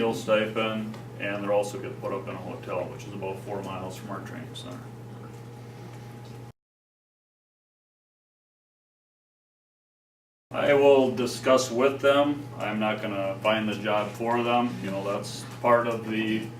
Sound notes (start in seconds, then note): 6.4 silence